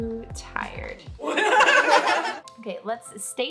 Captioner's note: laughter